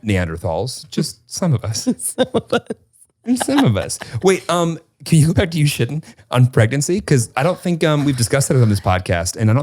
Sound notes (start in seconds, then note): 3.3 laughs